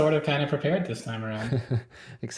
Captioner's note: chuckles